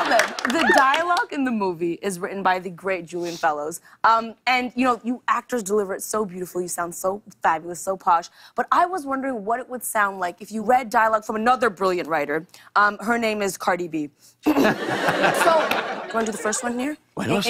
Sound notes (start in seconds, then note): 13.8 clears throat